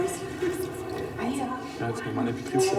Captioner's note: quiet conversations